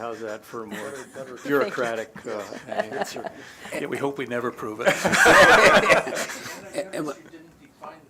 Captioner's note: laughter